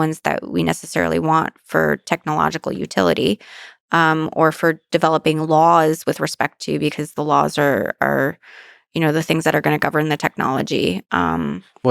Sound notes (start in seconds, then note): none